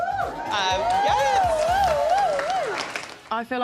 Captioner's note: cheering